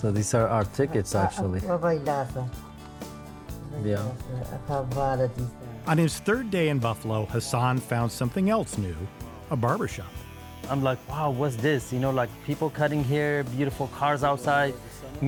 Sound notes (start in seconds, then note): 1.9 foreign language; 3.4 gentle music